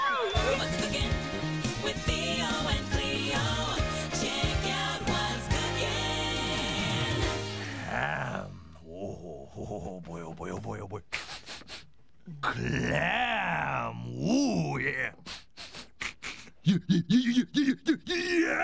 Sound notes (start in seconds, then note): 11.1 sniffing; 15.2 sniffing